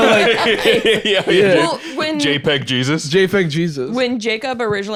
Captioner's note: laughing